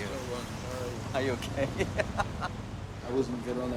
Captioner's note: laughs